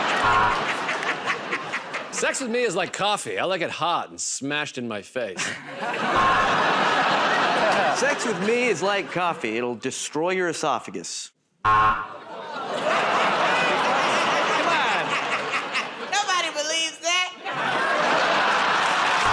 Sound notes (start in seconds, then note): 0.1 buzzer; 6.0 buzzer; 11.6 buzzer; 12.1 laughter; 17.4 laughter